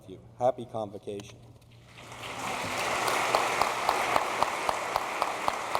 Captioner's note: applause